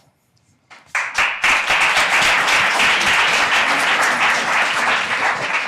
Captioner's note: audience applauding